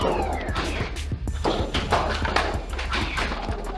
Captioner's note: battle sounds continue